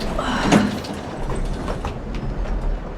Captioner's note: sighs